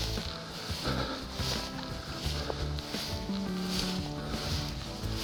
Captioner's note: grass rustling